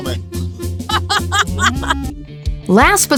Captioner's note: laughter